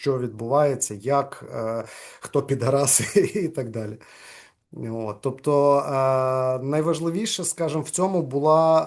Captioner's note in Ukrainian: сміється